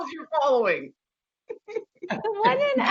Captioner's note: laughing